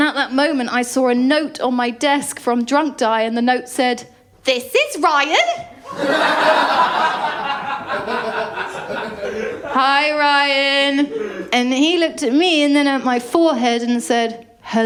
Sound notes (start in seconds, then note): 5.8 laughter